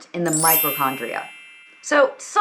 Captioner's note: chiming notification bell dings